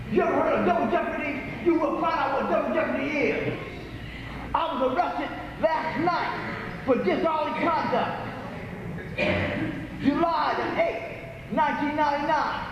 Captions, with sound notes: You ever heard of 'double jeopardy'? You will find out what 'double jeopardy' is. I was arrested last night... ... for disorderly conduct. *cough* July, the 8th. 1999